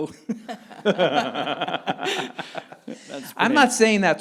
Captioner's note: both laughing